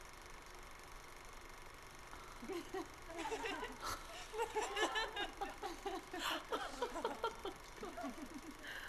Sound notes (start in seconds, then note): 3.1 laughs; 4.2 laughter